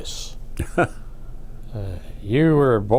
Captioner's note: laughs